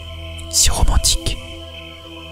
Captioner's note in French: chuchote